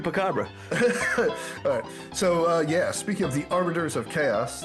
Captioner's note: laughing